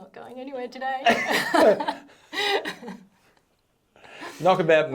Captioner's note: both laughing